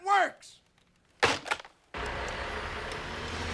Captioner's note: slams phone down